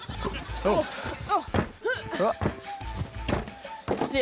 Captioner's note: grunts